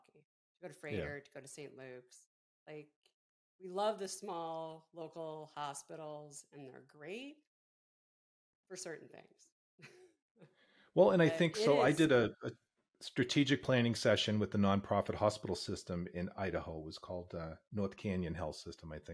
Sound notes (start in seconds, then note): 11.0 chuckle softly